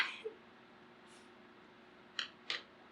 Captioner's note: laughs